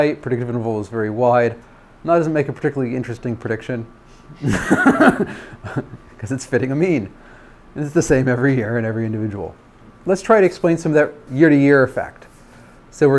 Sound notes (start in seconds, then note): 4.4 laughs